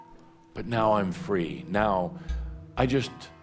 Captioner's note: none